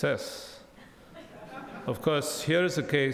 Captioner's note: audience laughs